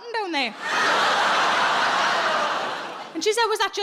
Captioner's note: audience laughs